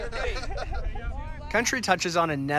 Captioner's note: laughter